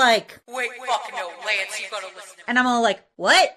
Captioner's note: ghost Shiro noises!